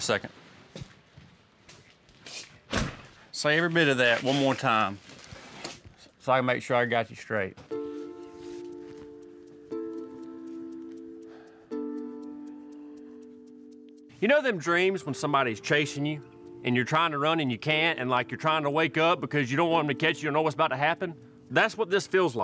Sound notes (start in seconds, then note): 2.4 door closes; 7.7 tense music playing